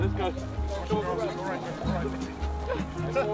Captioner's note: players talking to each other